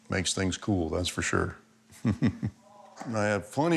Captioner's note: laughs